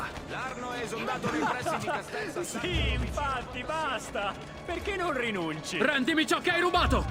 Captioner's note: laughs